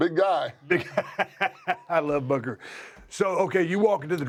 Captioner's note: laugh